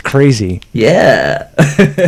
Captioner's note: laughs